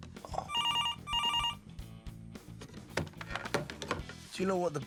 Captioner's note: phone ringing